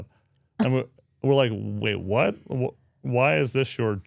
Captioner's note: speaker chuckles